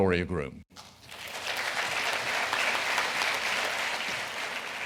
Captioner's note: audience applauding